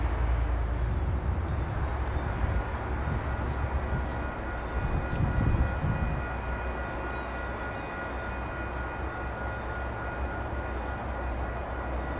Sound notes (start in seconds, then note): 2.3 crossing Bells in the distance